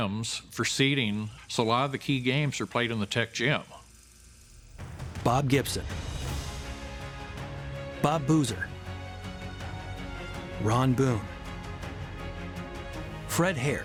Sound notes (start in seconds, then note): 4.5 movie film clicking; 7.5 upbeat music; 10.4 upbeat music; 12.6 upbeat music